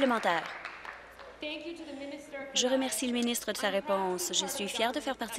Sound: applause

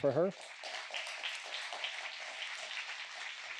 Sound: applause

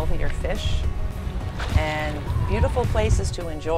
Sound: water splashes

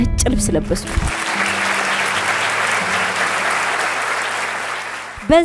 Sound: applause

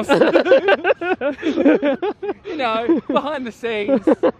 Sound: laughter

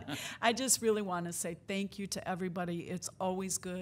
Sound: laughing

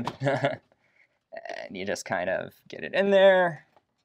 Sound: chuckles

